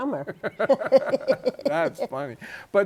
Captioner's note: laughter